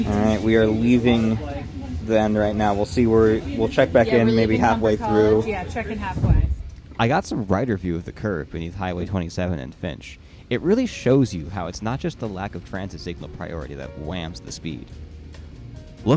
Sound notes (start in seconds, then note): 6.1 flutter; 13.9 elevator music fades in slowly